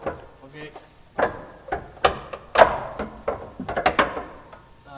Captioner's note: metal clanking